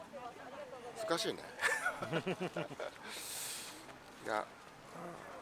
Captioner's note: laughs